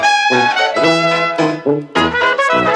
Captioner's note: none